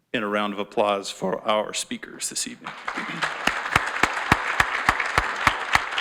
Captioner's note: audience applauds